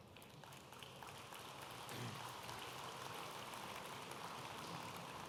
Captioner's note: audience applauding